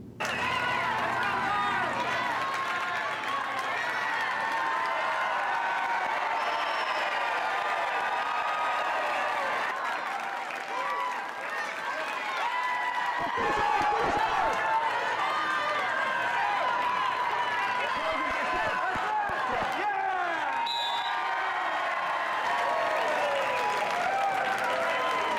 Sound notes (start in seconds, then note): 0.1 audience cheers and applauds; 10.0 audience cheers and applauds; 15.1 audience cheers and applauds; 20.6 whistle blows; 21.3 audience cheers and applauds